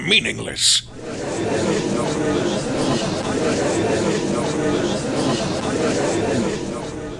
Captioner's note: gallery chattering